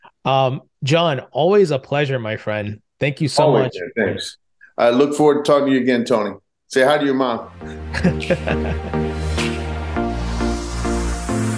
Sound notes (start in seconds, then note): 7.7 laughs; 8.8 upbeat music